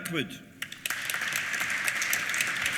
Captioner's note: applause